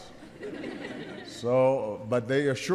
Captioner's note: laughter